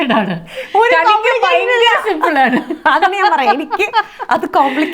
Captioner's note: laughs